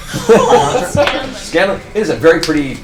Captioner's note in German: lacht